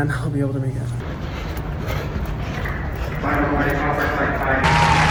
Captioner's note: Hyram panting